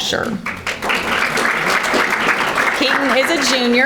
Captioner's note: audience applauding